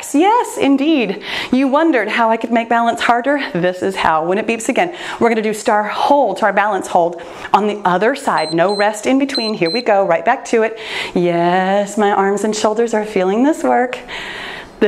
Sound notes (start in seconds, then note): 8.4 timer beeps